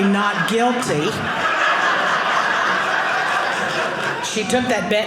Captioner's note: audience laughing